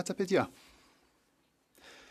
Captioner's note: speaking French